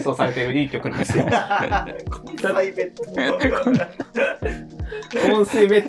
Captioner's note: laughing